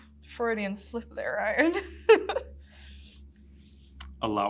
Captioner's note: chuckles